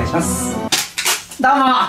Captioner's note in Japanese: ビリッ